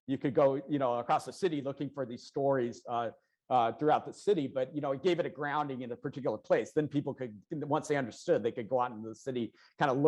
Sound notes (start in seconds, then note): none